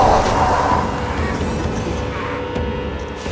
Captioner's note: The Patriarch roars; Teplov coughs; eerie music